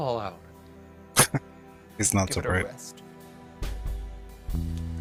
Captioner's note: chuckling